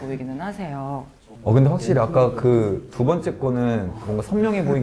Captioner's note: cool tone